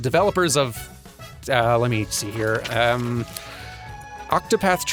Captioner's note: rustling papers